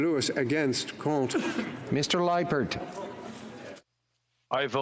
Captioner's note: speaking FRENCH